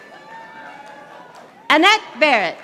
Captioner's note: audience applauding